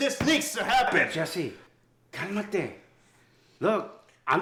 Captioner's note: Spanish